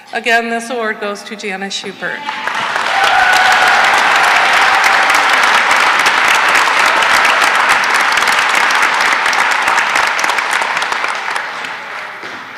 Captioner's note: cheering and applause